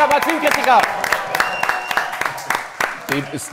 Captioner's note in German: Jubel, Applaus